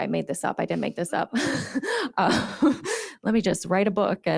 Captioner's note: chuckles